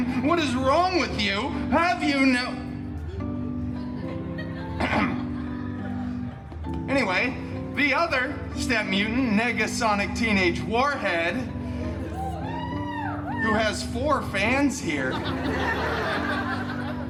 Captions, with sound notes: What is wrong with you? Have you no— [Clears throat] Anyway, the other stepmutant, Negasonic Teenage Warhead, [four guests cheering] who has four fans here. [guests laughing]